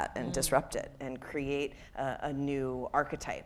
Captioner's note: none